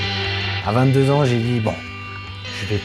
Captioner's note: man in French